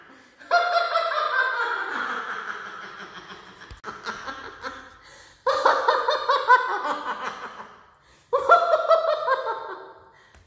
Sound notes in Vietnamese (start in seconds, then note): 5.3 Tiếng cười